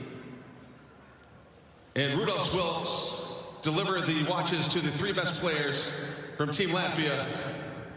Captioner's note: crowd Noise